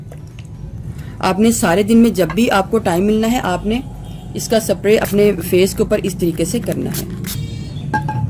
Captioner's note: spray in on face